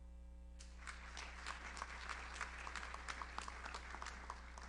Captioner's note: audience applauds